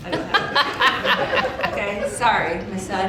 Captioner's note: audience laughing